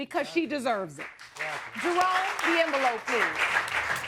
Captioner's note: audience applauding